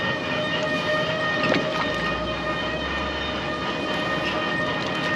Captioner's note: fish splashing